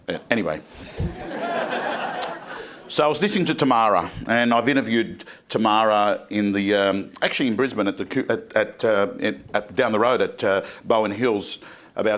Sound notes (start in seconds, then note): 0.9 crowd laughing